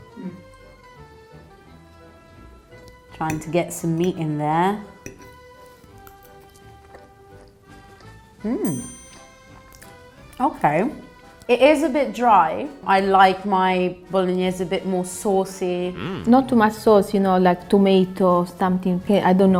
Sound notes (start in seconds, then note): 0.2 upbeat Italian music; 5.2 chews